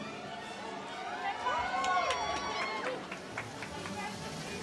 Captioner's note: audience cheers